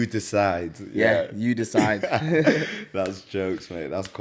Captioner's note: laughs